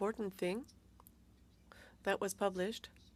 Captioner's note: speaking French